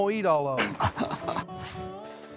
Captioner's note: laughs